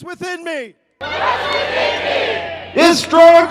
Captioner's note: crowd